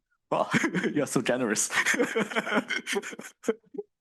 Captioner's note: chuckles